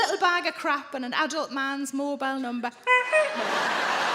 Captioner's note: mimics horn honking; crowd laughs